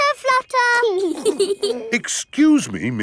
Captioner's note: both giggling